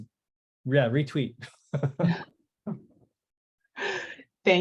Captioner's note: laughs